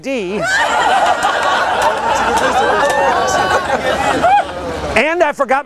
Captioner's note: laughter